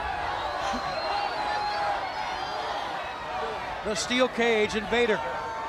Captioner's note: crowd chatter